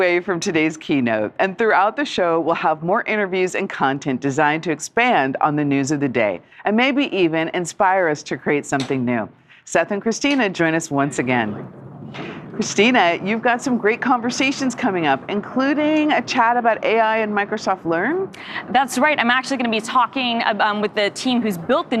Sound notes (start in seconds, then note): none